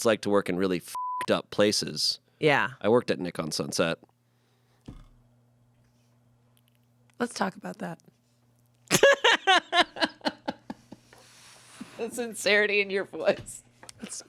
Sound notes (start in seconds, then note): 0.9 beep; 8.9 laughs